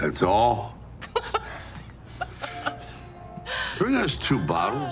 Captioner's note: both laughing